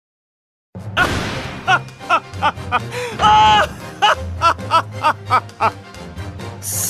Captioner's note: laughs